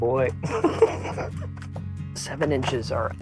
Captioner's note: laughs